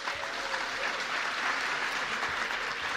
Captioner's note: cheers and applause